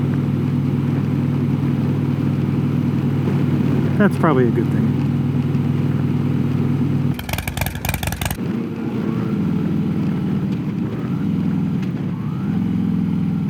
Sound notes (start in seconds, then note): 7.2 engine rumbling; 8.9 engine noise sustains then fades with video